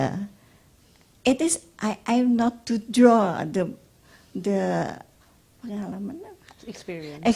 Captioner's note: speaks Indonesian